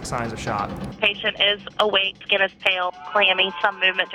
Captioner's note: voiceover